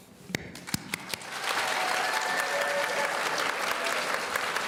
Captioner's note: audience cheering